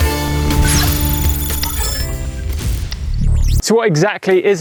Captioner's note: upbeat music; digital clicking